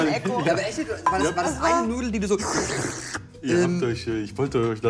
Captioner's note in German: Schlürfen